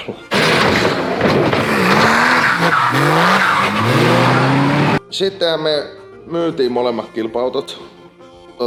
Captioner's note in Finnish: naurua; moottoripyörän ääni